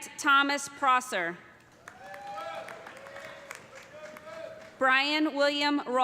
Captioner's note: cheers and applause